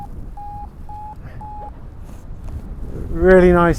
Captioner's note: Vario beeps